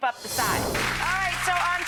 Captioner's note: audience applause